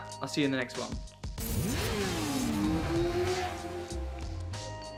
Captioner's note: motorcycle zooms